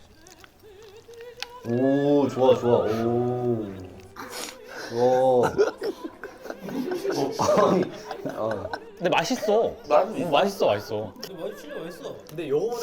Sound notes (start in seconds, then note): 4.2 munch munch